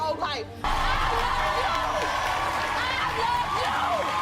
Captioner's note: audience cheering